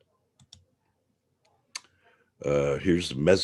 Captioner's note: mouse clicking